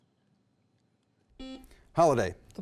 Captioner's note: beep